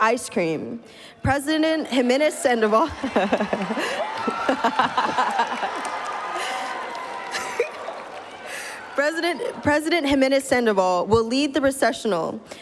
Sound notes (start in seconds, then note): 2.9 laughs; 5.2 cheers